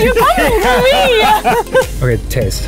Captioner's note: all laughing